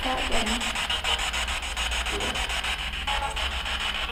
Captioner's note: static buzzing